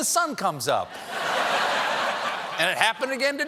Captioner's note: laughter